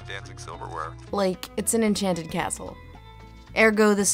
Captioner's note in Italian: voce fuori campo